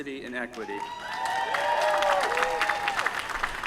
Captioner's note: applause